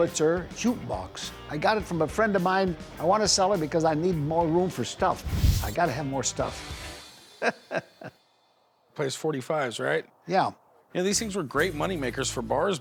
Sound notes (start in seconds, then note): 7.2 chuckling